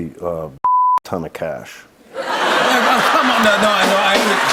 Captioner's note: laughter; cheers and applause